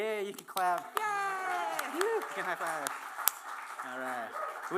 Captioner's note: applause